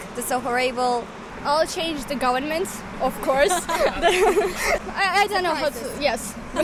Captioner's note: laughs